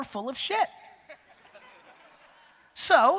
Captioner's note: audience laughter